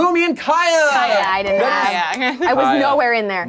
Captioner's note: overlapping chattering